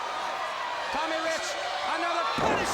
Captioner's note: crowd cheering